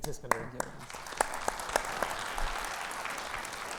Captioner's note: audience applauding